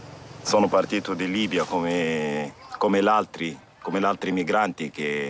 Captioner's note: speaking in foreign language